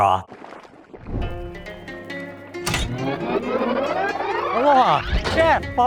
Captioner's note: broth boiling; soft plucking music